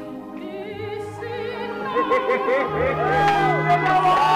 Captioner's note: audience laughing; audience cheering; audience clapping